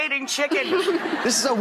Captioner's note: laughing